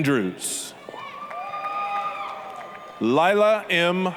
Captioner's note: applause, cheering